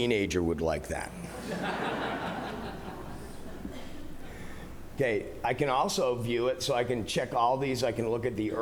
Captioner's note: laughter